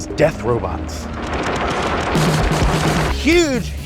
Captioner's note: weapon firing